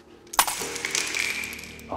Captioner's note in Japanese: ガラスが砕けて飛散する音